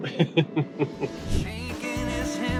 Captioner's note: laughing